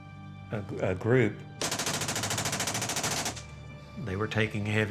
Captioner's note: gunfire